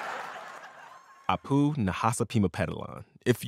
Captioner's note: laughter